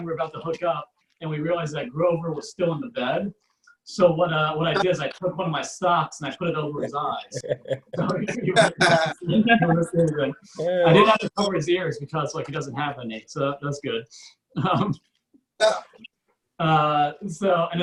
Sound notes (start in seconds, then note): 8.2 audience Laughs